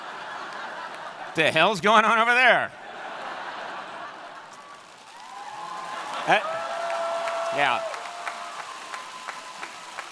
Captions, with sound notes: What the hell's going on over there? (audience clapping)